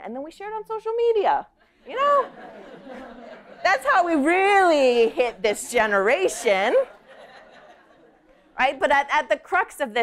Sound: laughter

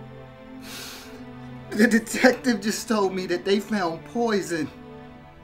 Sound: sniffles

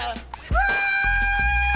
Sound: screams

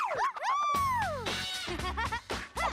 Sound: laughing

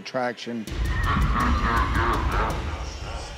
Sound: evil laughter

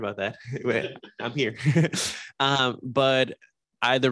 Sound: laughs

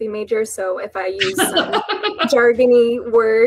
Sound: laughs

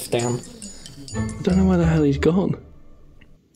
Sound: whispering

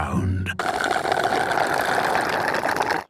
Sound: slurping

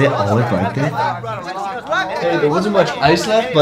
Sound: all continuing to argue

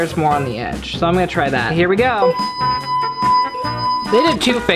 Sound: ringing

